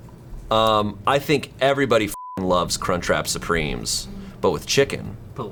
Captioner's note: beeps